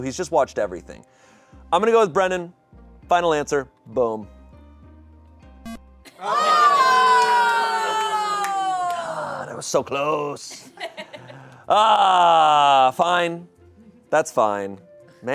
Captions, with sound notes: who's just watched everything. I'm gonna go with Brennan, final answer, boom. (electronic beep) (audience exclaiming) Ah, that was so close! Ah, fine. That's fine.